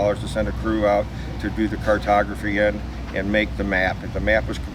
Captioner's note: none